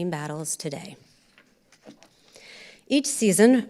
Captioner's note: papers rustling